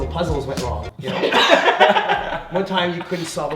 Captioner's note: laughing